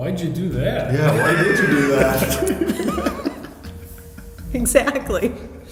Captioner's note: laughing